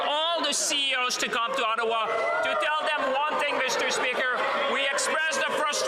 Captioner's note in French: voix de l'interprète